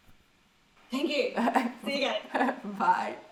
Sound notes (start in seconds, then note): 1.3 chuckles